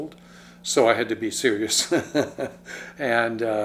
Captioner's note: laughs